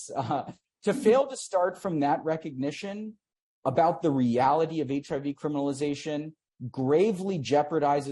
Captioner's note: laughs